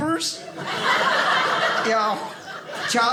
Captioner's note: audience laughing